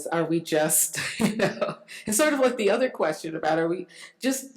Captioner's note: laughs